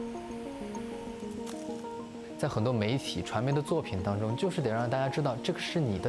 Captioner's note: speaking chinese